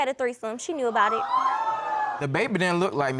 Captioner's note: audience exclaiming